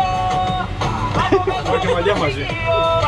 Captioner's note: laughs